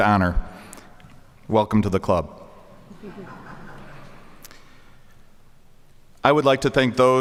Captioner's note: audience chuckling